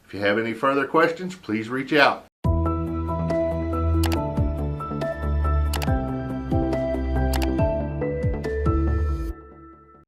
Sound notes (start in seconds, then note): 2.4 upbeat music; 4.0 clicking